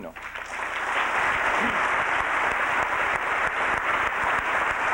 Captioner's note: applause